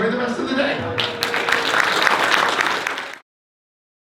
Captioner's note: applause